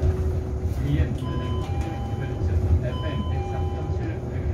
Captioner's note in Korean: 하차벨 소리